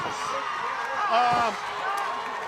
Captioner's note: crowd cheering